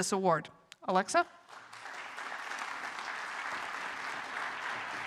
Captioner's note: applause